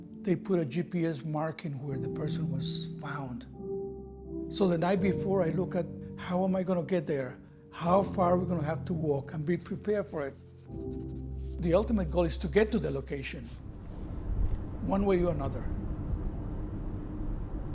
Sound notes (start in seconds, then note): 9.6 pen scratching